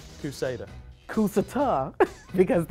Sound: laughs

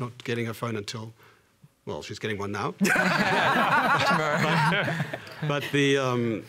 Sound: laughter

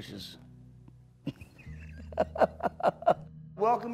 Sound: laughing

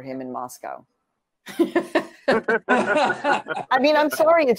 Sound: laughter

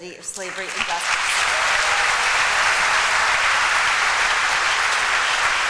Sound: applause

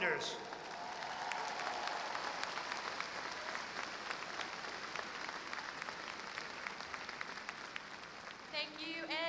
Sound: applause

